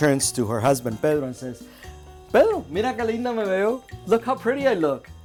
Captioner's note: speaks Spanish